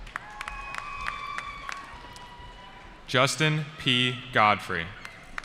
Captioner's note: cheering